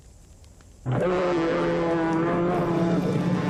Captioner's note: bear Roaring